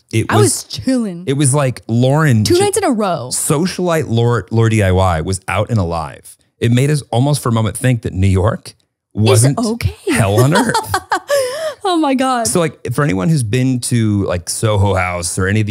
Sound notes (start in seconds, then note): 10.1 laughs